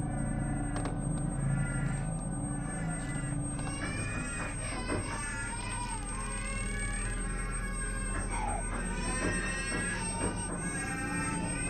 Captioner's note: babies cries escalate